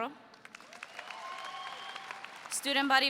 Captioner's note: audience cheers